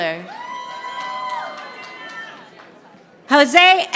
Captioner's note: audience applauding